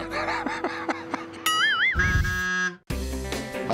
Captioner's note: laughter